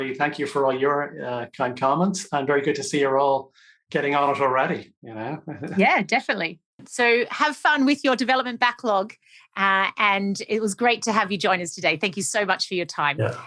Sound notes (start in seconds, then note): 5.3 chuckles